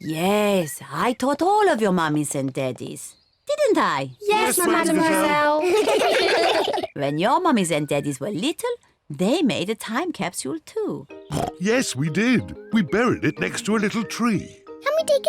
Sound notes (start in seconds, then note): 4.9 all laugh; 11.3 oinks